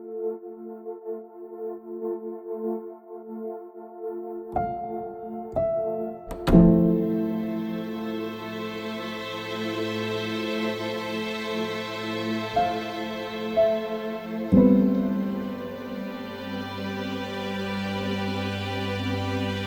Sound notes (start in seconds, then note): 3.6 door closing